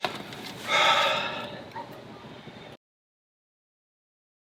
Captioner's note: sighs